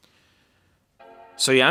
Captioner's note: startup sound